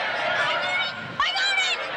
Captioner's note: crowd cheers